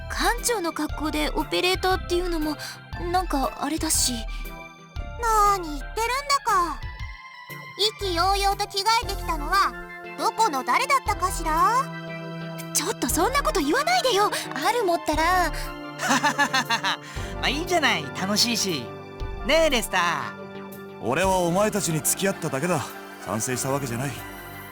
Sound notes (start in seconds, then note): 13.0 sputter; 16.0 laugh